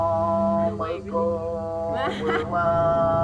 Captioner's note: laughing; traditional song